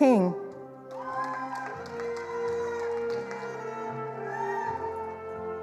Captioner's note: attendees applauding